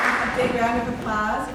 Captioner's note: cheering, applause; applause